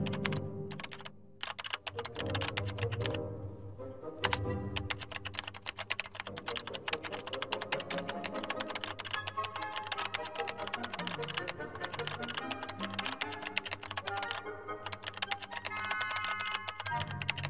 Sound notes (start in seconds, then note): 4.7 keyboard clicking